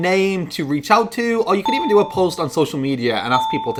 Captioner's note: ping sound